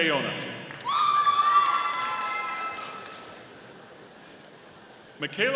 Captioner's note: audience applauding